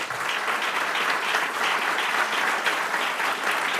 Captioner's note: applause